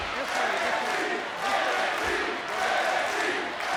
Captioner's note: crowd chants